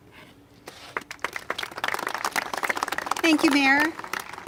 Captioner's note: congregation applaud